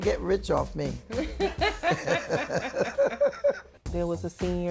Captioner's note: laughter